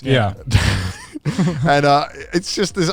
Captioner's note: chuckles